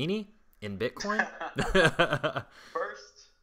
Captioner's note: laughter